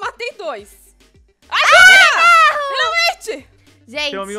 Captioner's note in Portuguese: gritam